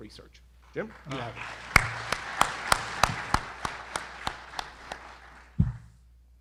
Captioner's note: audience applauding